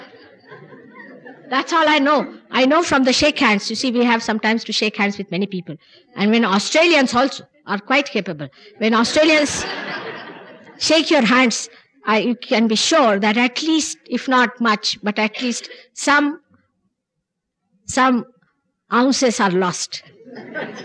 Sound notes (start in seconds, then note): 8.9 laughter